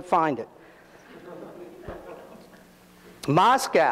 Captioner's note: audience laughs